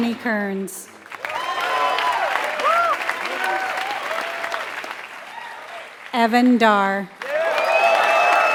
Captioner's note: applause